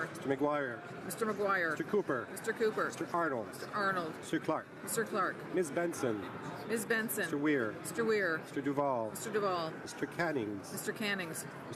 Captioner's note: speaking French